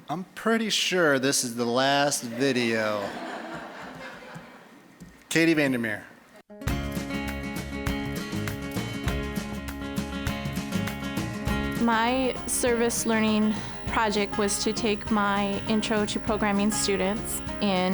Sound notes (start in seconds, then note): 2.2 audience laughing